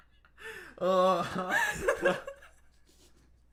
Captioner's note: laughing